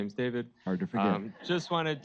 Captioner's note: audience laughing